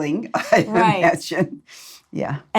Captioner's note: laughs